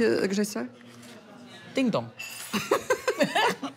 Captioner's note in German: Beide lachen